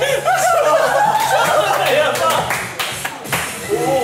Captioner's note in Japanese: 笑い